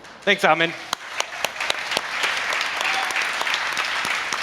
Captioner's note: applause